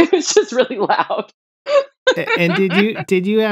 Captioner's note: laughter